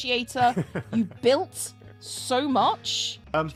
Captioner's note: bashful laugh